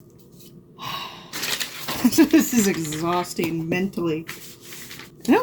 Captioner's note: laughs